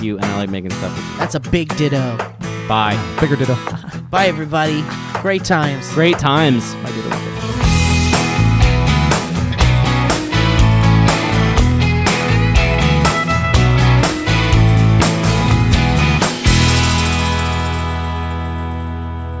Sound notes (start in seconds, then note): 3.0 laughs; 7.5 upbeat music